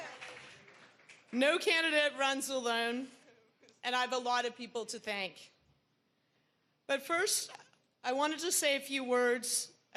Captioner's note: cheering